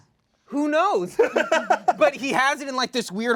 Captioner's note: laughs